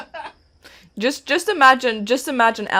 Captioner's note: laughter